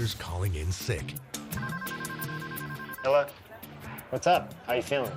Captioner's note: telephone rings